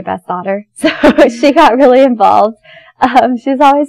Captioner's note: laughs